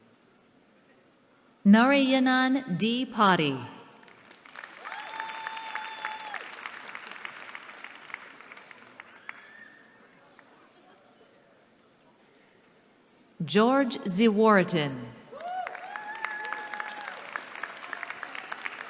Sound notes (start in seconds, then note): 3.9 applause; 15.3 applause